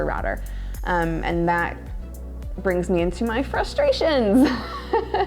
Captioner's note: laughing